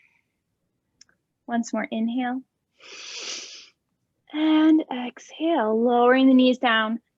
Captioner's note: inhaling